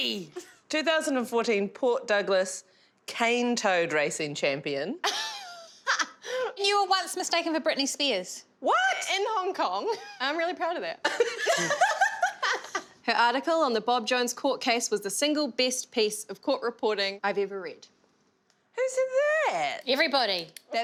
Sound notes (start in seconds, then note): 5.2 laughing; 11.1 laughing